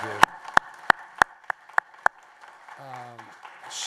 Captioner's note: applause